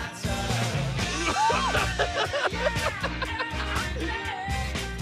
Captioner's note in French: en riant